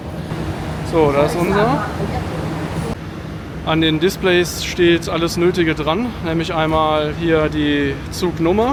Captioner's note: train